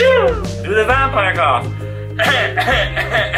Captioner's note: cough